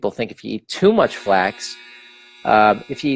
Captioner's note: timer buzzes